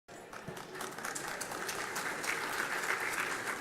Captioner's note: applause